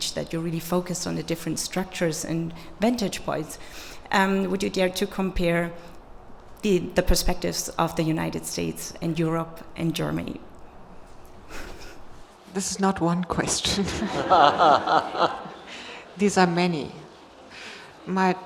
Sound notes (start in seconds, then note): 13.8 audience laughs